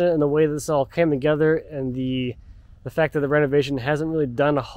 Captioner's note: none